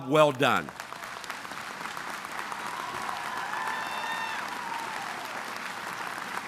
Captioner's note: audience applauding and cheering